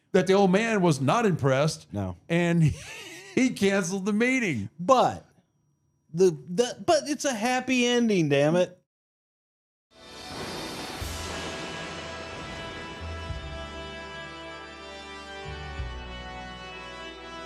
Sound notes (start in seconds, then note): 2.5 laughs